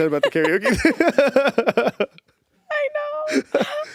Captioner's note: both laughing